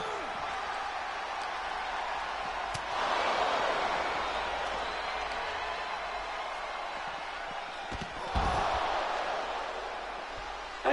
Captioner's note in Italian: Applauso